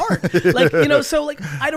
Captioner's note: laughs